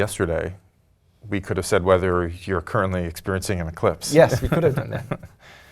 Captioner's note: laugh